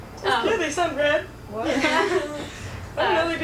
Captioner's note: laughs